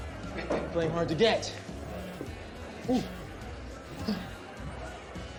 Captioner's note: cellphone vibrates